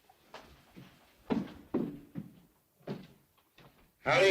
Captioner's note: Joss's footsteps